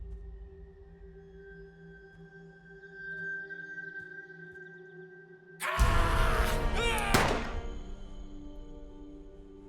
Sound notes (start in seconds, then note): 5.6 Dalton yelling; 6.8 gun shooting